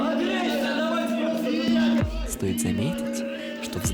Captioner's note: swearing